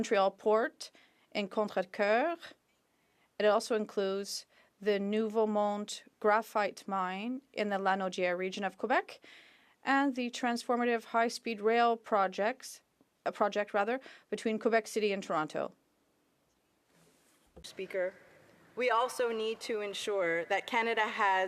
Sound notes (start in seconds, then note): 5.1 speaking French